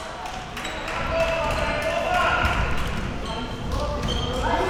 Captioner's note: people clapping